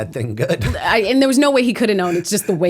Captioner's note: chuckle